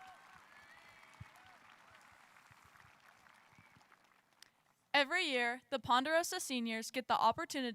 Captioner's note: applause